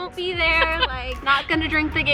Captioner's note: laughs